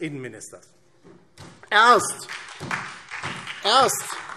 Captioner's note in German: Beifall